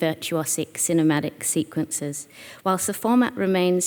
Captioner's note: none